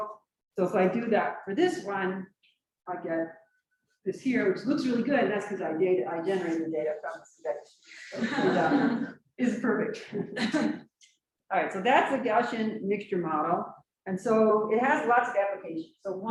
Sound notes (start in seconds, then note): 8.1 laughs; 10.8 chuckles